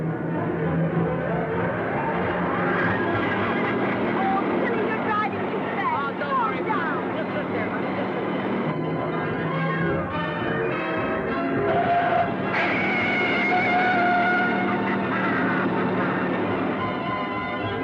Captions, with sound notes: (car whirring) (man laughing) - Oh, Billy, you're driving too fast. - Mom, don't worry. - Slow down. (thrilling music) (tires squealing) (Billy laughing)